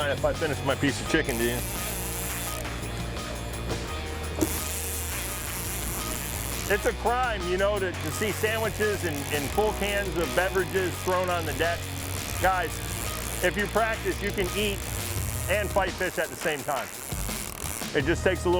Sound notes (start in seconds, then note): 1.7 air escaping